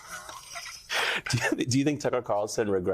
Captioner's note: laughter